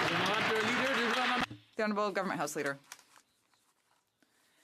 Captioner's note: some Applause